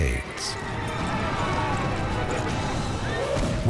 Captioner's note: soldiers shouting